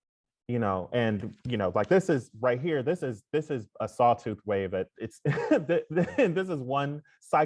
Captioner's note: laughs